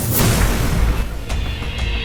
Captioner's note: zap!